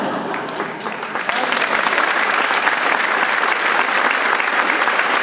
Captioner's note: audience laughing; audience applauding